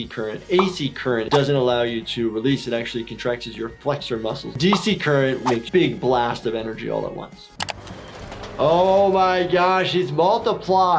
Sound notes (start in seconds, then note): 7.6 keyboard clicking